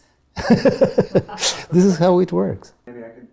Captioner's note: laugh